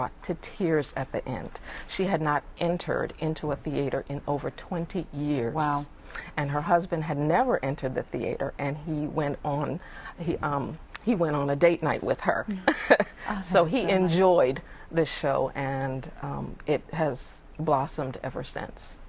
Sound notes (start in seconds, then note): 12.6 laughter